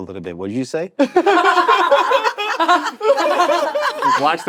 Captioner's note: all laughing